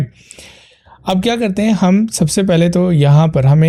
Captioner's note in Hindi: नाक से की जाने वाली आवाज़